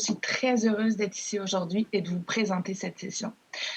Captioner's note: speaking French